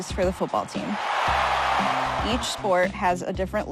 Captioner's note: crowd cheering